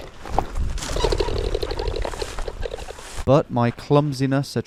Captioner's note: camera rattling